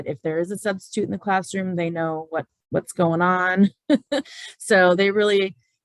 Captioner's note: laughs